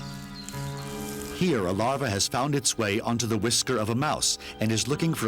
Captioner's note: birds chirping